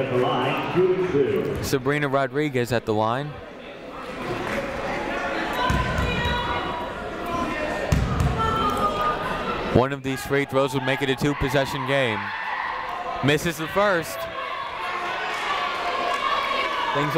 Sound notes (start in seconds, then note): 4.0 people shouting in the crowd; 14.7 people shouting in the crowd